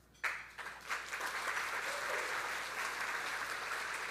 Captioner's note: audience applauding